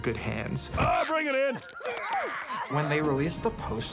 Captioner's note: all groaning